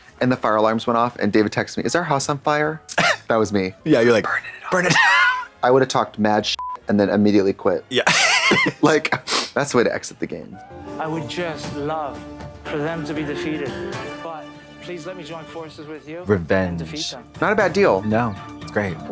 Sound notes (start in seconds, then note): 6.6 beep